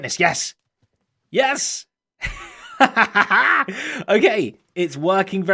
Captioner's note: laughs